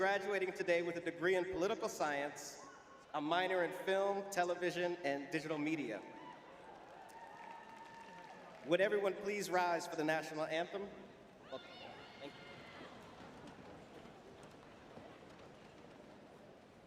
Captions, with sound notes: graduating today with a degree in political science, a minor in film, television, and digital media. [cheering] [applause] Would everyone please rise for the national anthem? Welcome Caroline. Thank you.